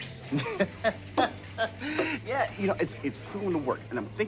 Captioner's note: laughs